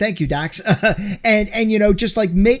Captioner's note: laughs